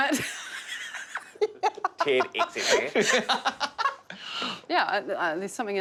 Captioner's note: laughing